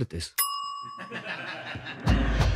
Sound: ding

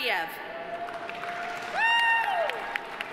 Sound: audience applauding

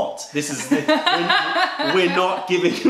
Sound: laughter

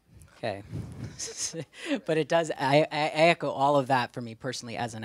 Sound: laughs

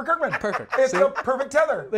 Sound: laughs

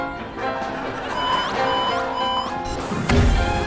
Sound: alarm blaring

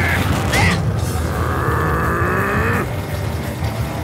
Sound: mondo grumbling

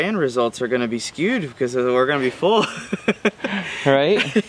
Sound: laughs

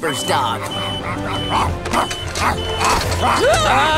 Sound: barking, beeping; screaming

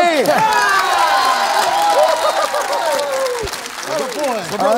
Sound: applause

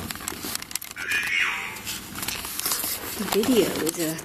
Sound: Ovilus buzzes

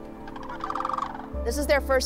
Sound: crane song

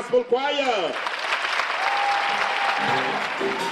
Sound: applause

